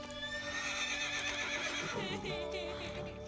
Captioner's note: horse whinnying; laughing